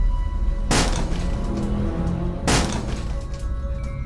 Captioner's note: door being smashed